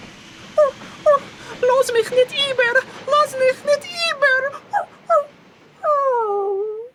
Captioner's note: Yiddish